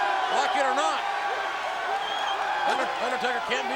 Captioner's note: crowd cheering